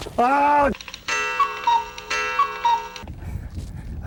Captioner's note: cuckoo Clock sounds